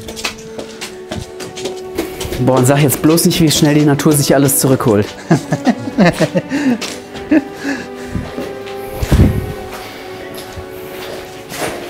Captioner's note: laughs